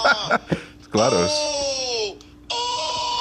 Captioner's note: laughs